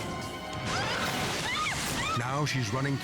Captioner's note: screams